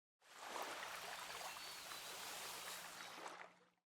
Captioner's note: waves lapping